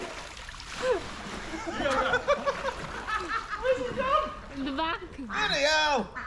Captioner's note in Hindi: हँसी